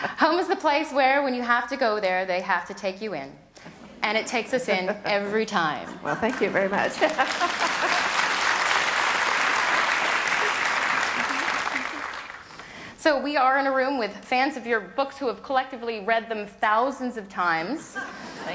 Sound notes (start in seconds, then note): 4.5 laughter; 6.7 audience applause; 6.9 laughs